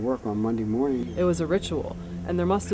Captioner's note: seagulls calling